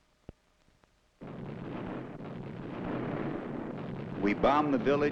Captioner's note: bombs rumbling